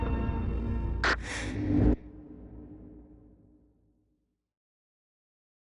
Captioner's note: quick inhale of oxygen